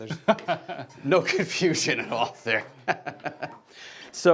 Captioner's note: laughing